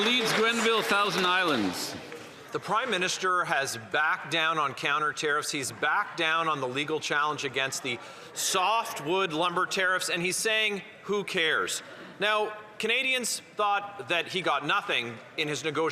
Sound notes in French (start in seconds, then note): 5.4 voix de l'interprète